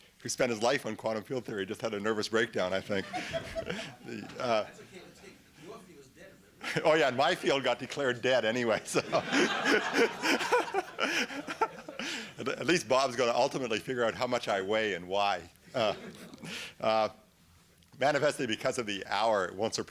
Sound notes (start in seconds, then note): 8.7 laughter